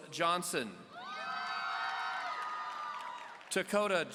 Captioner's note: audience cheering